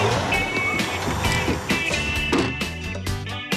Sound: machine Whirring

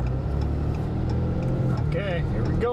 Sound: engine revs; blinker ticking

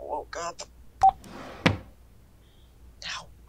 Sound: phone Beep and Drawer open

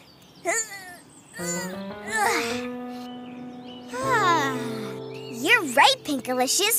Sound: laughs; grunts

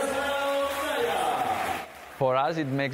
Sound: crowd cheers

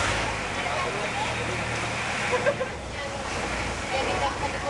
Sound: boat Eninge

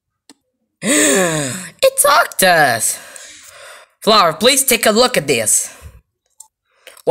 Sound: gasp

